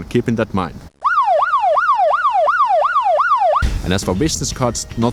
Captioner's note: siren wailing